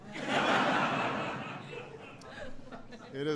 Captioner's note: laughter